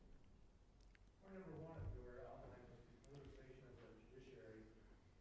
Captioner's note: speaks faintly